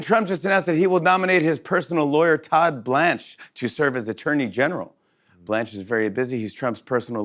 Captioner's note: none